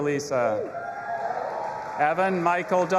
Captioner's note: audience applauding and cheering